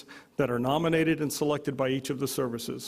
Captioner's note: none